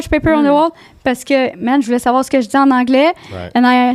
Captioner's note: in french